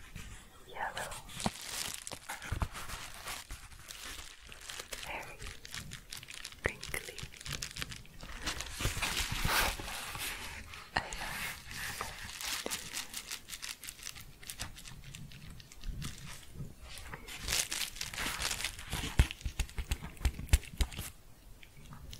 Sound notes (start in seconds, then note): 2.2 crinkling and tapping; 7.7 crinkling and shuffling; 12.4 quick crinkling, then tapping